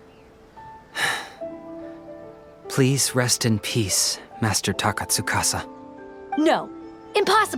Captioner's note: sigh